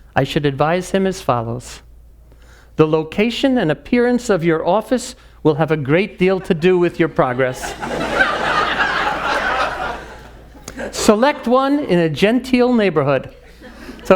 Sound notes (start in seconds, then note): 8.5 audience laughing